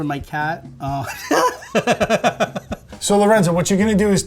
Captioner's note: laughing